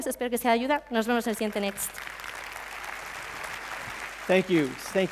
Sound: applause

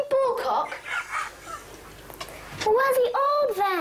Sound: Walter laughing

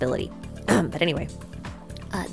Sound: coughs

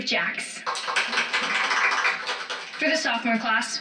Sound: clapping

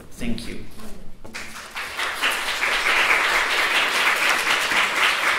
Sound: audience applauds

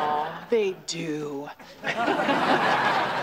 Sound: laughs

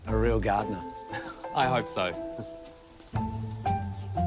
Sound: chuckles

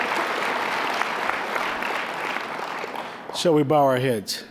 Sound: laughing, applause; applause

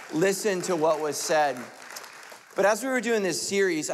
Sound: light clapping

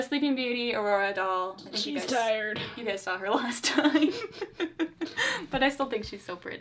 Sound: laughs

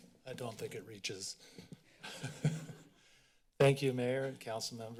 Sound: laughs

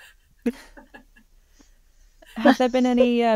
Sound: all participants laugh

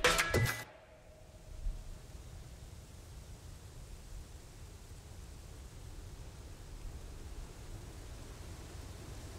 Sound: quiet sound of rustling leaves

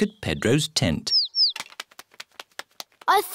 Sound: tweeting

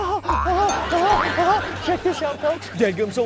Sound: boing, boing, boing

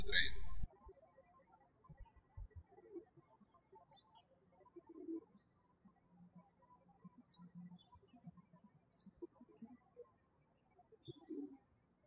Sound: birds chirping

